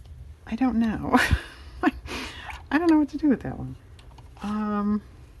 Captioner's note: laughs